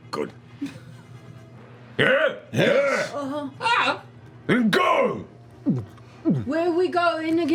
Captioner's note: gulps